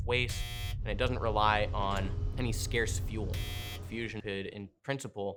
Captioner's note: buzzer sound; buzzer sound